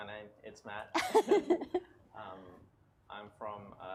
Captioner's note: laughs